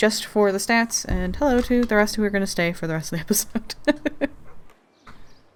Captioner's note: laughing